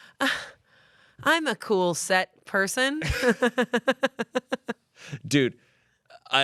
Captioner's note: laughs